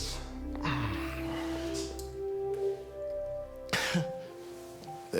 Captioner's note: Alex groans; Alex laughs